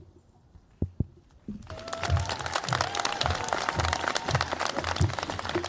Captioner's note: cheers, applause